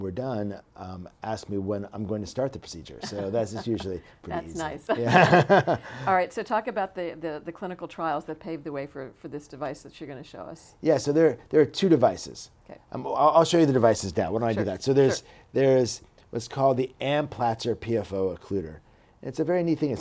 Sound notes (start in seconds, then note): 3.0 chuckles; 4.3 laughs